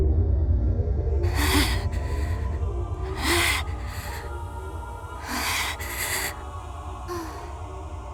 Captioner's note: huff; pant; sigh